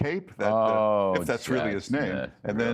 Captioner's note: laughter